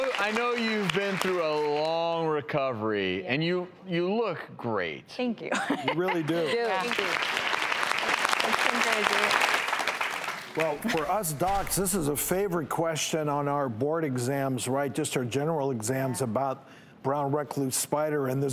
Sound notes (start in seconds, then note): 5.5 laughter; 6.2 audience clapping